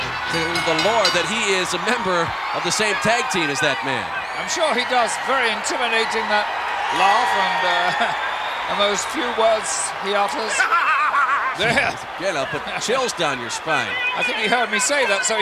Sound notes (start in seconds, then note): 0.0 bell ringing; 6.6 audience cheering; 10.2 chuckling; 10.6 Jim chuckling